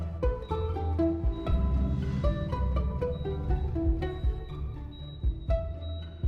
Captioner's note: machine beeping